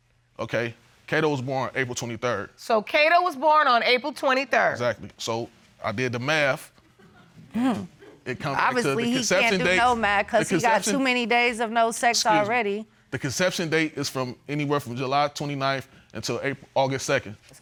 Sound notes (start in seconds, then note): 7.5 scoffs